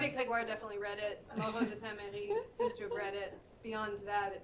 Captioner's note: french